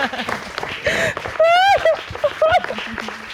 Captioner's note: crying